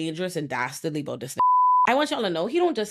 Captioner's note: beep